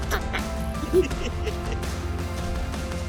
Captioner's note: baby laughing; parent and child laughing